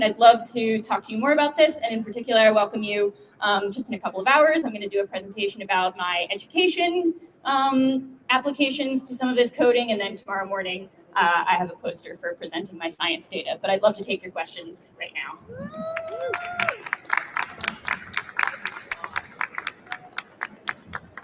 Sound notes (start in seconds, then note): 15.9 applause